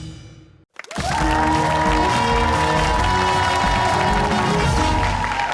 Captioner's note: cheers and applause